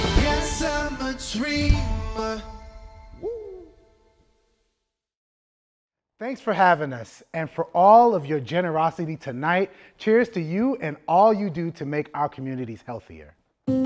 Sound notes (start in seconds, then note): 3.0 shouts; 13.7 upbeat music